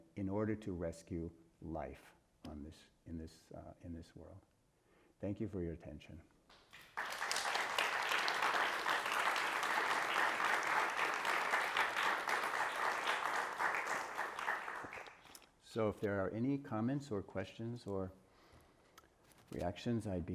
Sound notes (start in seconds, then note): 6.7 audience applauding